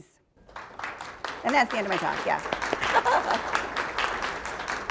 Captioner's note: laughs; audience applauds